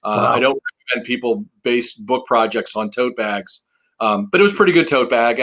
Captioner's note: murmuring